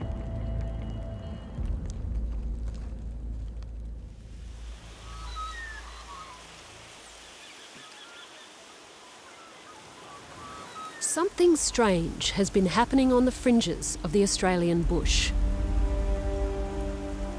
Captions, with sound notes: (BIRDSONG) Something strange has been happening on the fringes of the Australian bush.